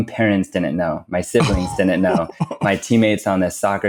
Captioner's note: laughs